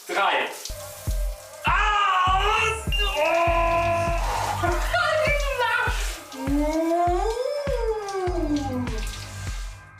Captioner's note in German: Schreie